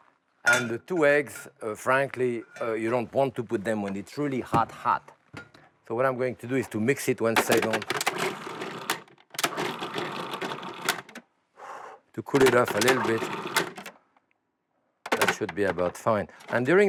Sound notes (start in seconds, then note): 8.4 whirring